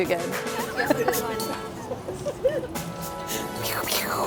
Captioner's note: laughs